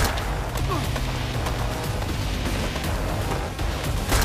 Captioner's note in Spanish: Disparos